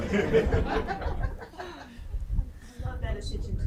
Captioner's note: group laughing